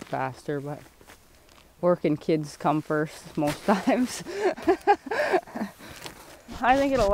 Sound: laughs

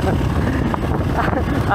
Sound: laughs

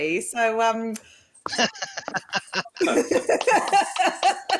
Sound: laughing

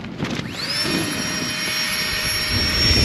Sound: fan starts up again

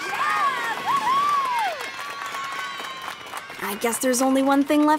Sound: kids cheering

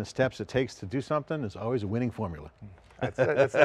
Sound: laughs

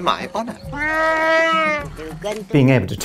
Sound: Chewbacca roars

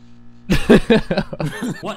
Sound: laughter

